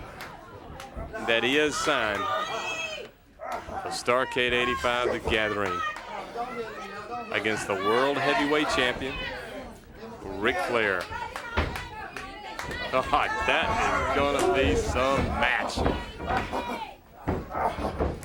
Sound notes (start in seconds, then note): 0.0 crowd cheering; 4.9 crowd chatter; 9.0 crowd chatter; 14.0 crowd chatter